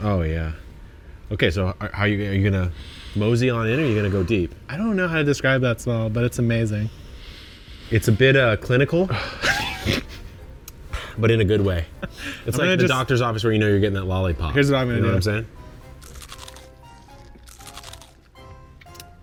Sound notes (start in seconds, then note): 7.1 both sniffing; 9.3 chuckles; 12.1 chuckles; 15.9 lemons crunching